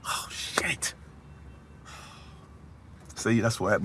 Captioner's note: he sighs